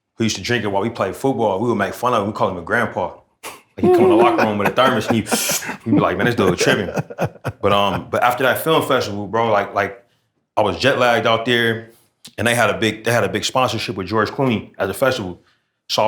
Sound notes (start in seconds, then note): 3.8 makes sipping noise